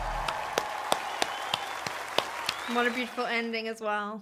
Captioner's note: crowd cheering and applauding; clapping